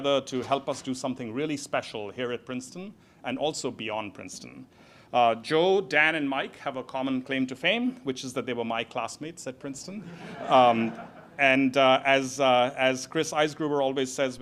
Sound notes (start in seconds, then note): 10.0 audience laughs